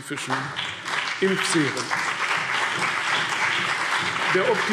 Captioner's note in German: Beifall CDU und BÜNDNIS 90/DIE GRÜNEN